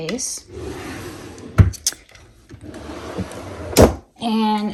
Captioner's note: drawer sliding